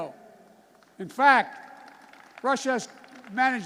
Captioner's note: applause